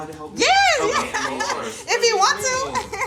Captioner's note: laughs